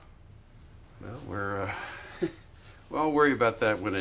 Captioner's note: chuckles